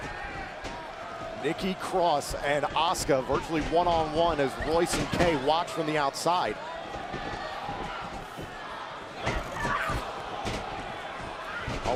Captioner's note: crowd chatter